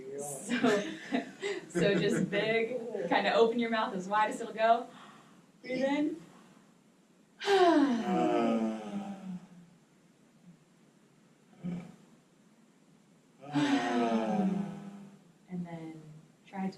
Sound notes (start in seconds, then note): 7.4 colective yawn and sighing